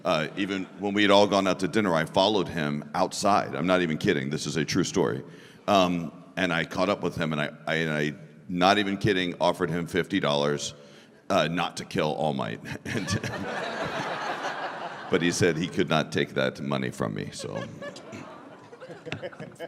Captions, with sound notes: Even when we had all gone out to dinner, I followed him outside I'm not even kidding, this is a true story. Um, and I caught up with him and I, I-- not even kidding-- offered him fifty dollars uh, not to kill All Might and... [laughter] but he said he could not take that money from me, so... [Audience: awww...]